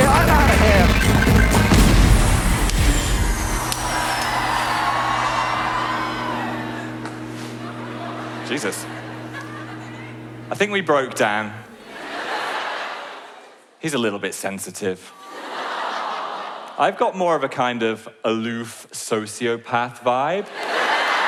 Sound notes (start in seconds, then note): 0.8 explosion; 11.7 laughing; 15.3 audience aww's; 20.4 audience laughs